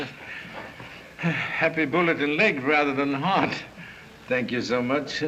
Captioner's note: sigh!